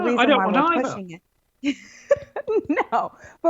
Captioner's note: laughs